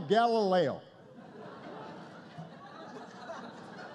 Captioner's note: laughter